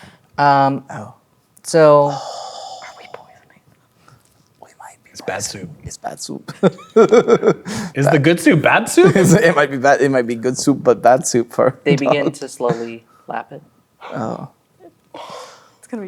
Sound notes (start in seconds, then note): 3.3 whispers; 6.6 laughing